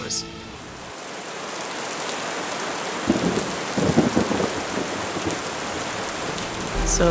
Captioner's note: sound of rainfall and distant thunder